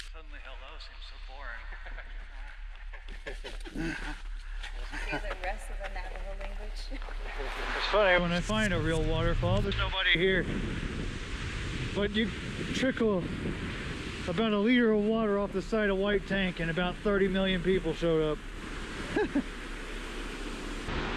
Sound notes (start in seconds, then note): 1.5 laughter; 19.0 snicker